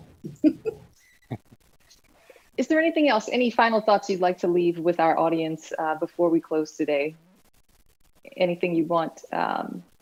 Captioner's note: laughter